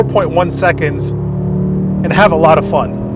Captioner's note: engine whirring